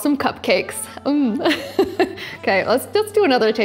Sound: laughs

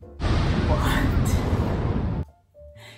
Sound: explosion

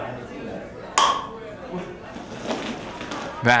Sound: clink

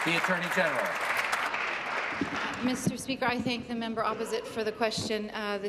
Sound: some Applause

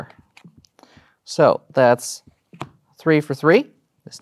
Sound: slaps cards on table

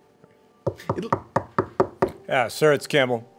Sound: knocking

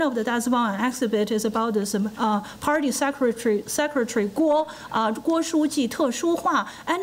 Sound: foreign language

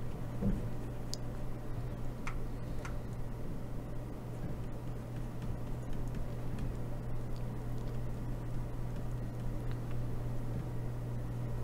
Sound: typing

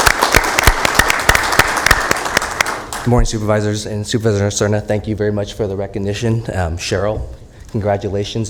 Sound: applause

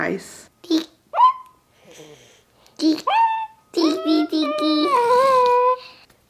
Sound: babbling

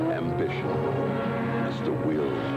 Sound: engines

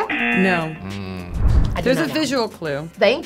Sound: buzzer razzing

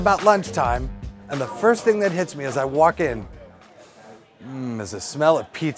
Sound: sniff

